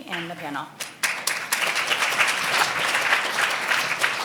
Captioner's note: applauding